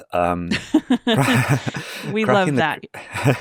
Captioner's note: group laughing